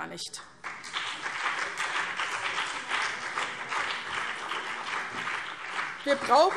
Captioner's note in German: Beifall BÜNDNIS 90/DIE GRÜNEN